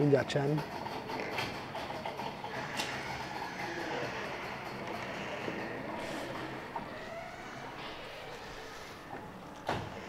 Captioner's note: gate goes up